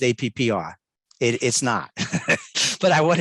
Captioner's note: laughs